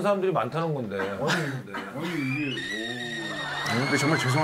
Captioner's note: sighing